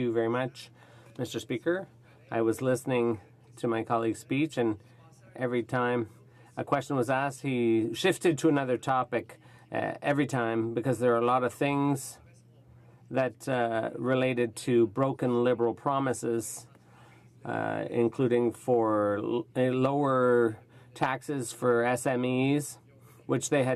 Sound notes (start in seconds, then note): 6.9 speaking French